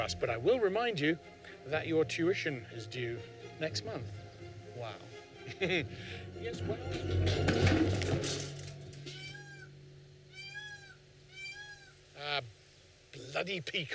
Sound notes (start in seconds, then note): 5.4 laughs; 6.5 loud clanging; 10.2 peacocks squawking